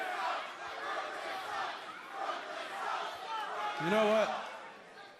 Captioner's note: fans chanting